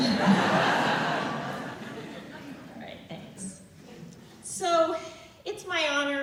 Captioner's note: laughter